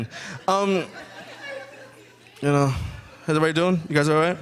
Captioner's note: audience chuckling